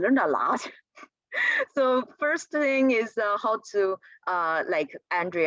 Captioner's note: laughter